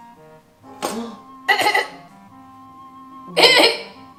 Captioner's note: groans; groans